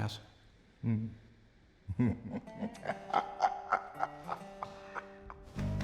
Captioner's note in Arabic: ضحكة مكتومة